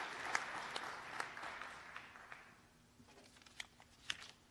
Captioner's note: cheers and applause